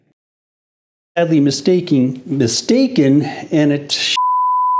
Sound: beep

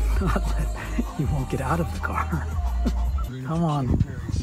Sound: laughing

